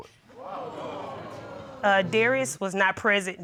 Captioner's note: audience exclaiming